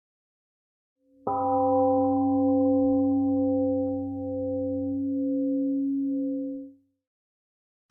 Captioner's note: temple gong rings and fades